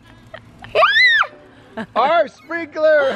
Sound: screams; laughing

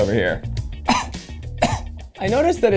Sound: coughs

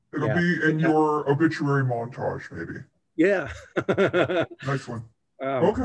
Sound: laughter

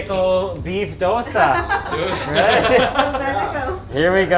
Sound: people laughing

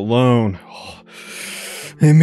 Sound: takes a deep breath

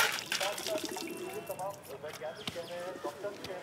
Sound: public chatter

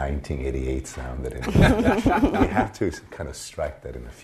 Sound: laughter

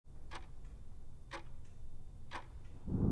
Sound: clock ticking sound

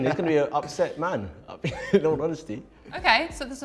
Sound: chuckle

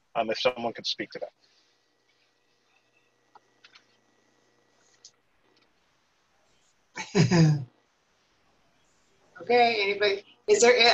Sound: laughter

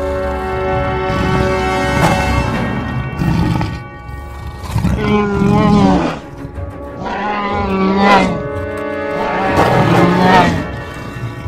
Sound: both continue to growl at each other

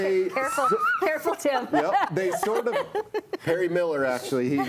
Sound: all laughing

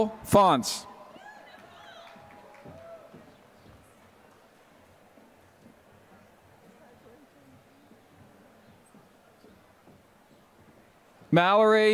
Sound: applause

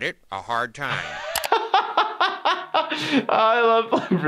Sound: laughing

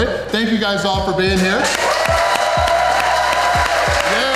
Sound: crowd clapping and cheering

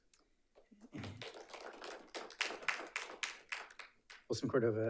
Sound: audience applauding

